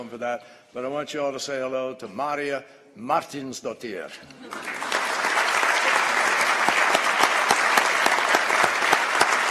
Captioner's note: applause